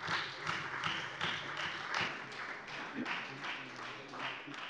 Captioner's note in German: Beifall Freie Demokraten und SPD